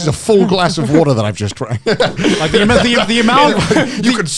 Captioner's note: laughs